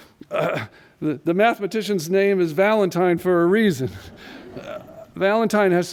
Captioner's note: laughter